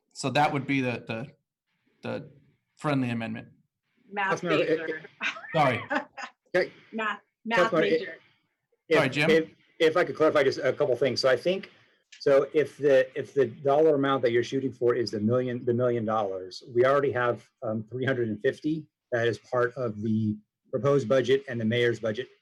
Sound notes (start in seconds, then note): 10.8 laughter